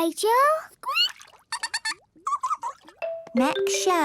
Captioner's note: both fish laughing